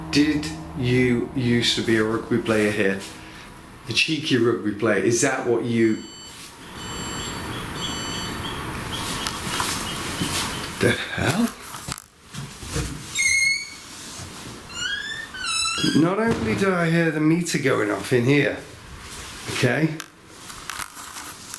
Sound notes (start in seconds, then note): 6.6 device beeps; 12.9 squeaking